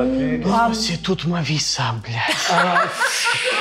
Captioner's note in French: rires